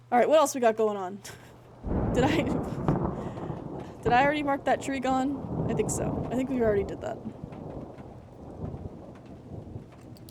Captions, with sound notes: All right, what else we got goin' on? Did I- [Laughs] Did I already mark that tree gone? [Thunder Rumbling] I think so. I think we already did that. [Thunder Continues]